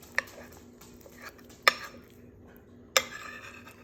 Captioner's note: spoon clinking